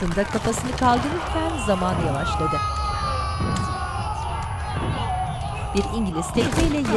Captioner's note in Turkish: Çınlama sesi; İnleme sesleri